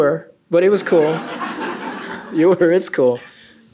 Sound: laughter

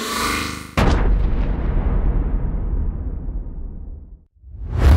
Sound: boom!

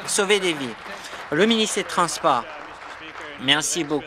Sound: applause

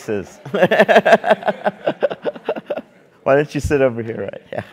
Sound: laugh

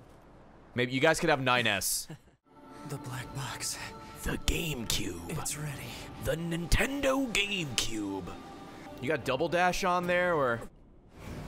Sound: laughs

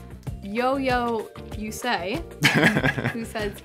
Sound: laughing

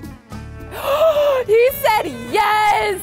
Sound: gasps

